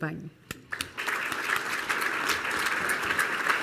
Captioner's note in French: Applaudissements